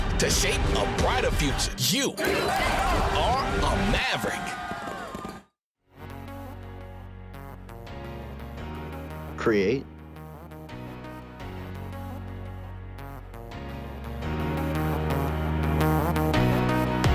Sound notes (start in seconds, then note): 4.1 people cheering; 6.5 soft music